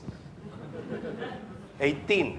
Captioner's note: audience laughs